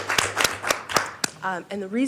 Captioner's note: applause